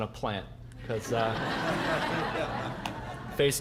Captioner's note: audience laughing